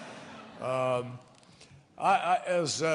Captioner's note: laughter